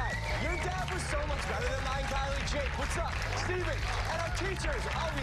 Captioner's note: cheers and applause